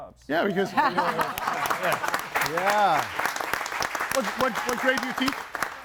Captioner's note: audience applauds